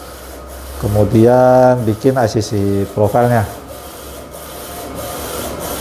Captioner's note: printer machine noise